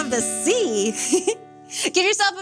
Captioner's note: chuckles